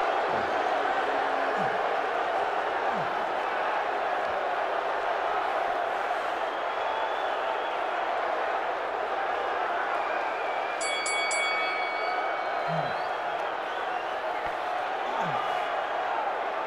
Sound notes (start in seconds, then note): 1.8 crowd boos; 10.8 bell